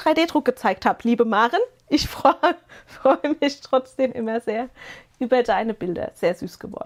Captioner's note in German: gelächter